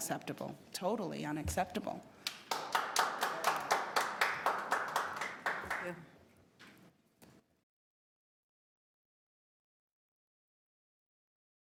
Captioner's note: applause